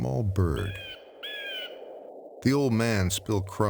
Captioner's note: bird calling; wind blowing